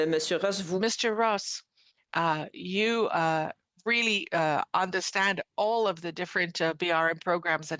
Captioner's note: speaking French